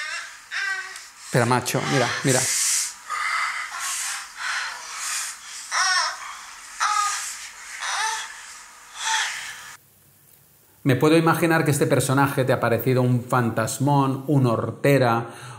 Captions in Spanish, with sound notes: Espera, macho. Mira, mira (gemidos) Me puedo imaginar que este personaje te ha parecido un fantasmón, un hortera